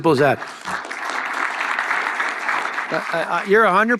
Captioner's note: audience applause